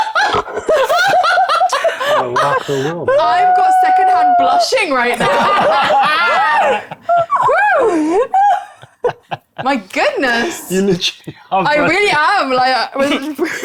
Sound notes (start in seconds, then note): 0.0 players laughing; 5.1 players laughing